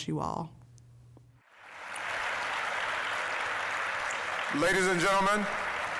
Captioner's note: applause